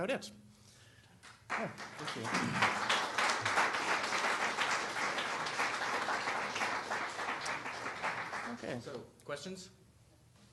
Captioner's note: applause